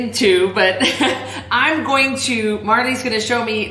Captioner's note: laughing